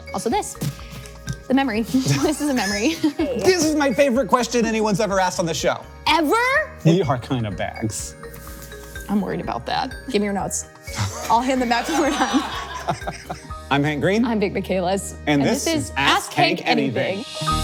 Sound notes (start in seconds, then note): 12.1 laughs